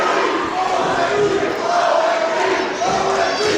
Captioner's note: crowd Chanting